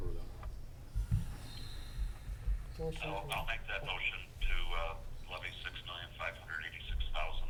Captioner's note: none